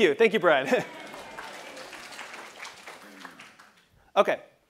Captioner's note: laugh; applause